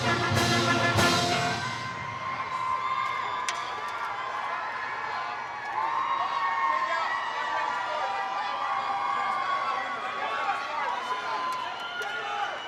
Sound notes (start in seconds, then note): 3.4 attendees applaud; 3.4 attendees cheering